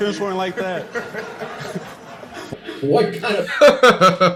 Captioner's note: audience laughing; laughs